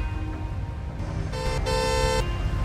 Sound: car horn honks

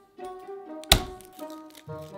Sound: knife smashing

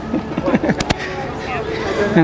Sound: laughs

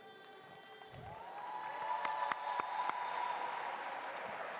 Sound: audience applauds

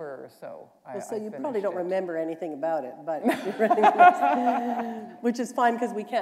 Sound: laughter

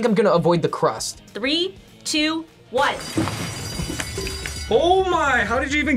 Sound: bell rings

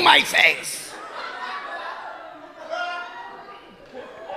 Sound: audience laughing

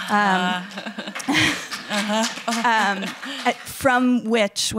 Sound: applause

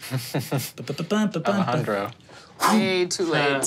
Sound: chuckles; vocalizes cheerfully

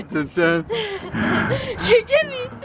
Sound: laughing

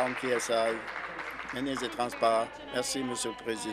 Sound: applause

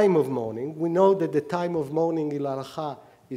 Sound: speaking hebrew

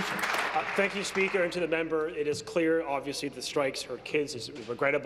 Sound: applause

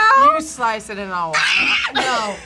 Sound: screams

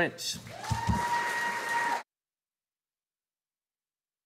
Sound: audience applauding

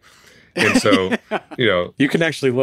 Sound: laughs

